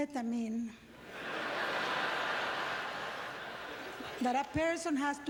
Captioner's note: audience laughter